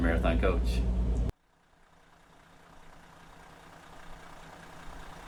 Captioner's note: coach engine soaring